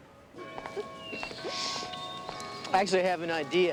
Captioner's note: bell rings